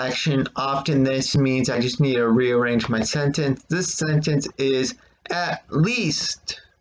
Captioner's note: click of trackpad